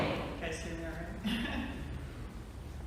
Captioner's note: chuckles